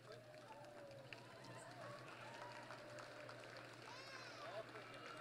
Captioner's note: applause